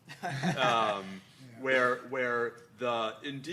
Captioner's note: laughing